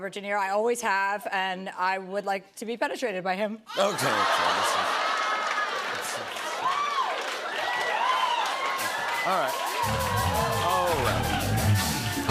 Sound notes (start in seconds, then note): 7.1 cheers and applause; 9.2 funky music plays